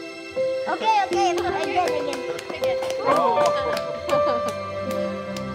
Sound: applause

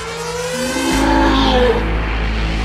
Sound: roars

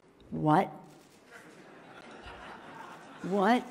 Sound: laughing

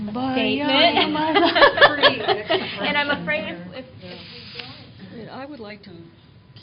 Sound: laughter

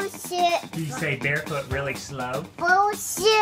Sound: voiceover

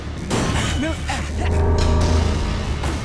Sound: grunting

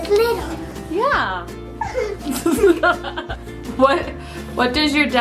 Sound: laughs

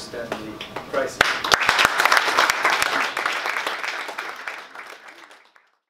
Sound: applause

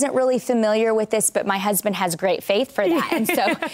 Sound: laughs

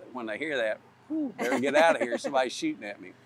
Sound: laughs

